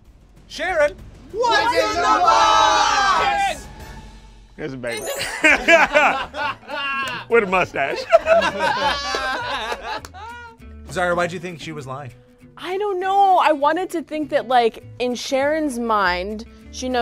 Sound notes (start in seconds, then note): 5.0 group laughs; 5.1 laughs; 8.3 group laughs